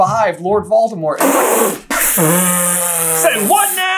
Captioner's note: dramatic spit take